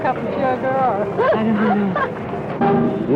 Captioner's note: laughter